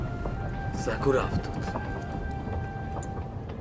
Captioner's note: man speaks in foreign language